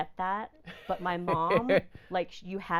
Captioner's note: laughing